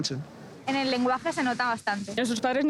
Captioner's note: none